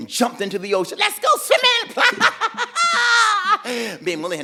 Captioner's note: girls laughing